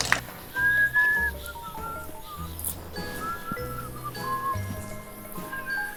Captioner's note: whistling